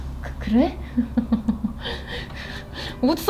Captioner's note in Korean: 웃음